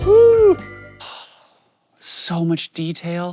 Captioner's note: sighing